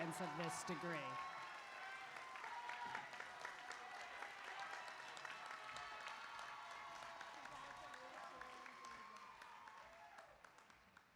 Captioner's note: applause